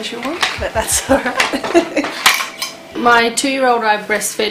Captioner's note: chuckles